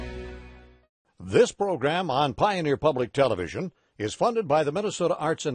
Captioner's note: voiceover